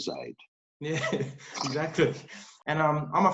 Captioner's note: laughs